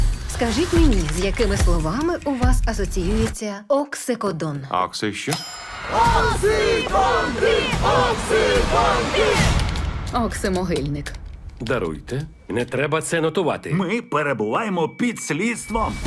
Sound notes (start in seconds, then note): 5.6 ominous music plays; 5.7 all chanting